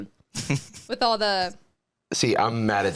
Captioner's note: chuckling